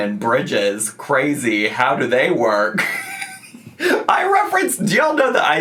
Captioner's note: laughs